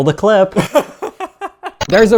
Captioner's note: laughs